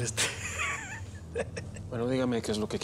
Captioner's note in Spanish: risas